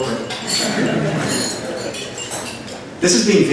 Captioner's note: laughter